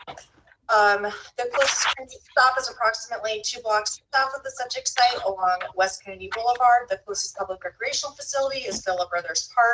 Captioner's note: rustling papers